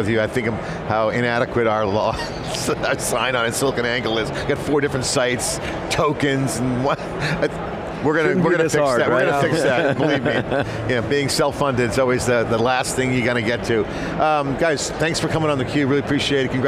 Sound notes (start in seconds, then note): 7.5 laughs; 9.1 laughs